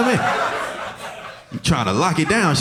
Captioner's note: audience laughing